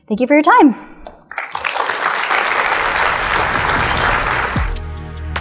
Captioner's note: audience applauds